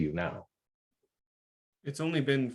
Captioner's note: silence